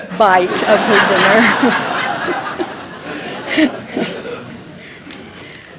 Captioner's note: laughter